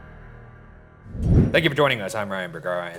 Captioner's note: screen whooshing